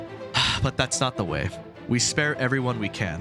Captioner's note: le sigh